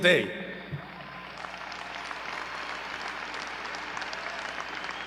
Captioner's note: audience cheering